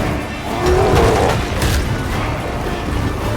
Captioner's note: loud crash